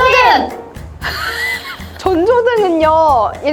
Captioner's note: laughter